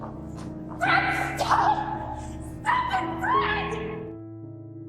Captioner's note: yelling